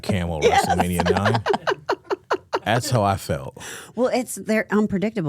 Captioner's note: laughs